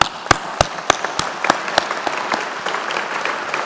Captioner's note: applause